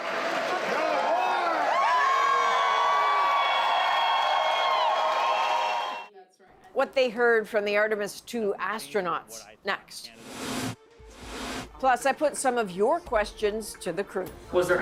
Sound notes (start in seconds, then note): 6.2 cheers and Applause